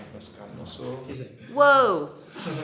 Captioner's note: speaking Spanish